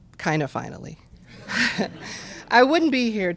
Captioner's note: laughter